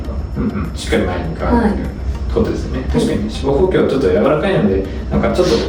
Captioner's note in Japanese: 咳払い